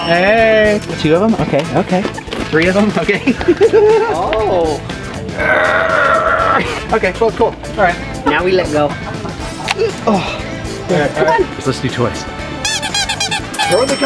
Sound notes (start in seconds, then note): 3.1 laughing; 5.3 groaning; 12.6 toy squeaking; 13.7 cash register dinging